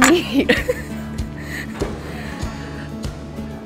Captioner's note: laughing